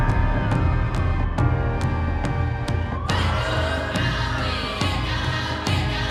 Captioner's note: sirens